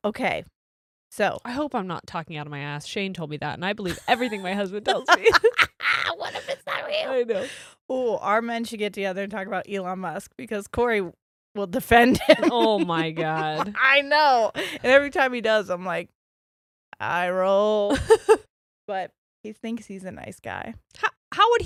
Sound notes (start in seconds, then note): 4.8 both laughs